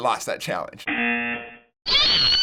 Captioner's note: buzzer